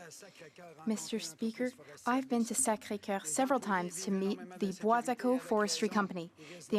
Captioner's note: speaking French